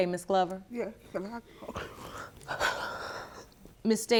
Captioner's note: breathes heavily